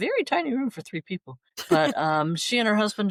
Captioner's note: laughter